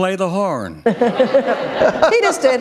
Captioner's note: laughter